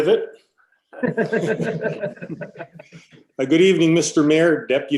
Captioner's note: laughing